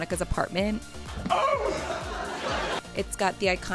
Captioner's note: laughter